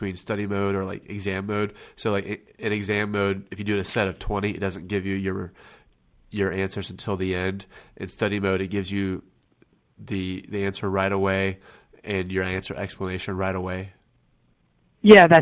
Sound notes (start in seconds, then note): none